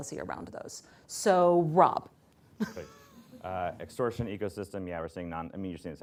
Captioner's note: laughs